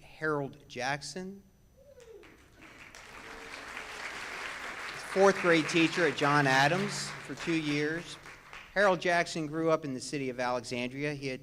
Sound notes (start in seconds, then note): 2.0 audience claps